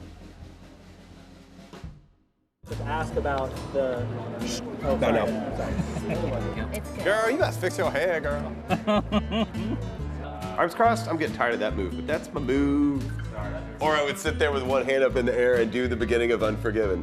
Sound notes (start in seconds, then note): 8.6 laughing